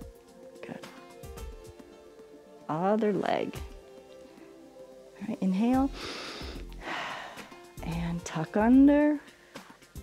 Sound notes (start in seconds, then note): 5.9 inhales and exhales